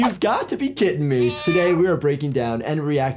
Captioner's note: cat meows